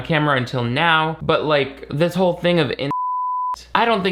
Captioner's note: beep